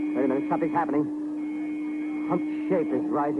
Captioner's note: alarm sounds and bell continues